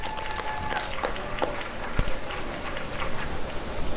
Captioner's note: applause and cheering